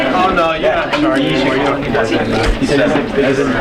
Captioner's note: chattering